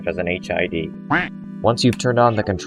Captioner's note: quack